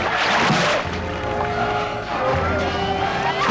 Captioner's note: rock slamming